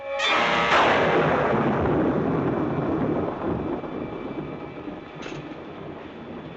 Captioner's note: suspenseful music; thunder crashing